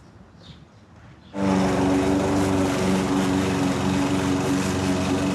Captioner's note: lawn mower whirring